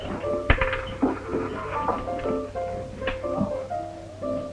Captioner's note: coin rattles; people murmuring